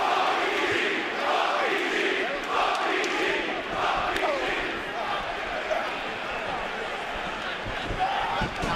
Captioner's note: fans chanting